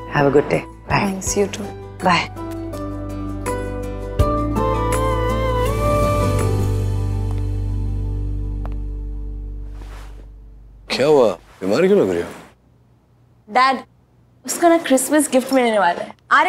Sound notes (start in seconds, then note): none